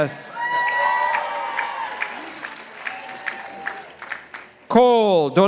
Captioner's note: participants applauding